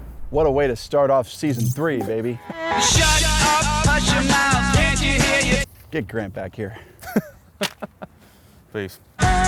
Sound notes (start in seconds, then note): 7.0 all Laughing